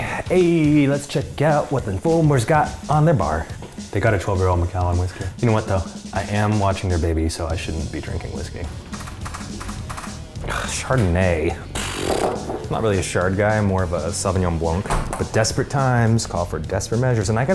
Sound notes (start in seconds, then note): 11.4 scoffs